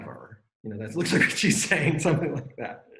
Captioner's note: laughs